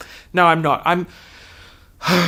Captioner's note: sighs